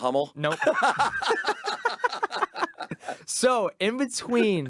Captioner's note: both laughing